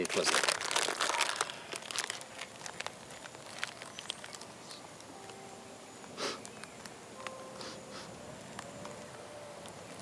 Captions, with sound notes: I need a Twizzler. (paper crackling)